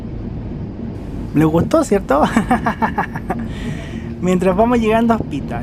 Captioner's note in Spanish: risas